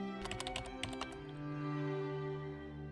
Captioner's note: keyboard typing